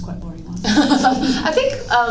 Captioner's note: laugh